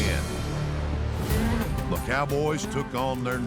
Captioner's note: bell rings